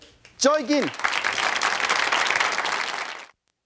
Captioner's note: audience applauding